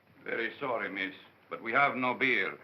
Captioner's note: none